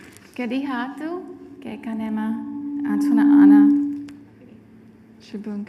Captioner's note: speaking foreign language